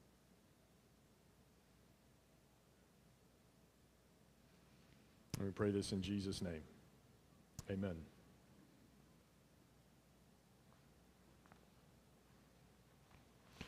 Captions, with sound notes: And we pray this in Jesus' name, amen. (silence)